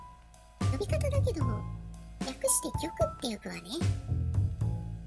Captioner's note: "K" in English